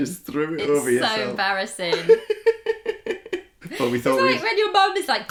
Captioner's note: laughter